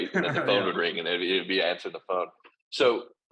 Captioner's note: laughs